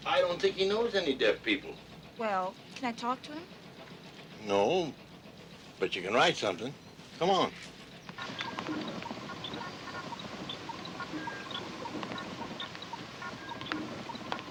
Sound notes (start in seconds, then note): 8.1 machine beeping